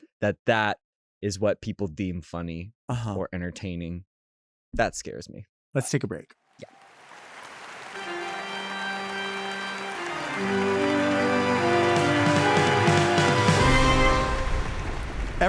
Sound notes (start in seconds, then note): 6.7 audience applauds; 7.9 spooky organ music